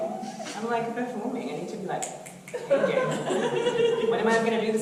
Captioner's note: snaps fingers